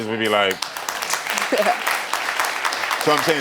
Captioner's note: crowd applauding; chuckling